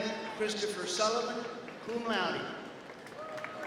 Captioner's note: applause